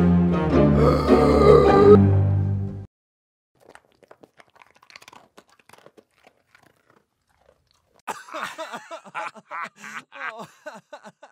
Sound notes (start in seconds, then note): 0.7 gasps!!!!; 8.1 laughs lel